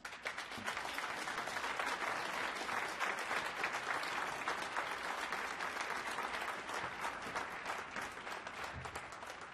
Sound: applause

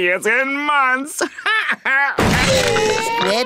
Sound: laughing

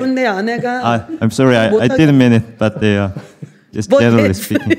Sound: points and laughs

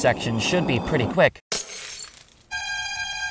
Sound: glass shattering

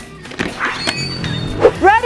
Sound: door opens

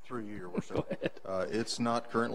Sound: laughs

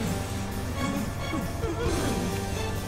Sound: yelps

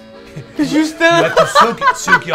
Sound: laughs

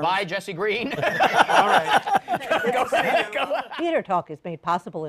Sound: laughter

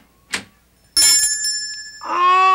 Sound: ringing

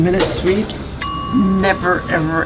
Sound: bell dings

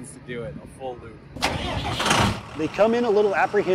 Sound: truck engine starting

